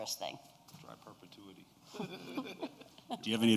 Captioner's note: laughter